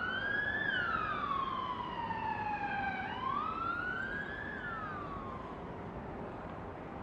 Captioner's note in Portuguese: som de sirenes